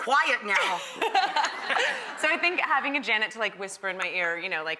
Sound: laughs

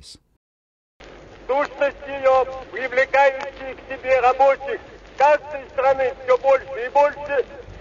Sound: in Russian

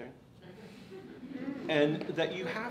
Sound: audience laughs

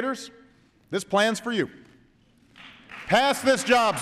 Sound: applause

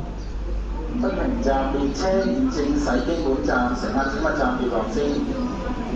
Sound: Cantonese

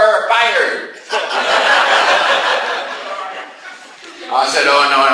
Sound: class laughs

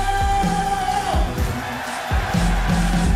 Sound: crowd

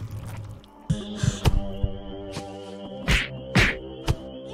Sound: blows thud

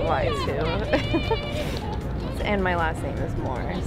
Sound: person laughing

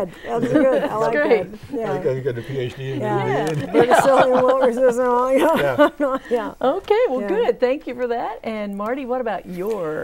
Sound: laughing

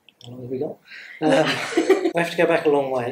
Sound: laughs

